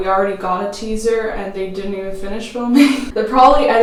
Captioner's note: laughs